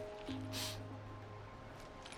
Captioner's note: sniff